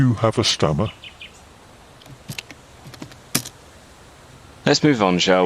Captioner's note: typing